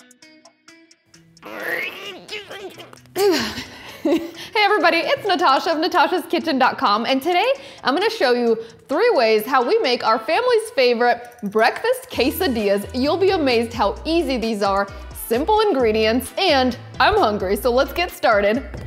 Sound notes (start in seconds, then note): 1.4 grunts; 3.6 laughs